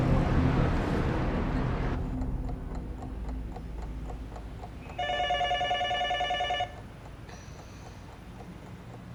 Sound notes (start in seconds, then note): 2.0 clock ticking; 4.9 telephone ringing